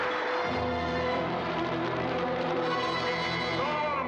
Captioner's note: fire crackling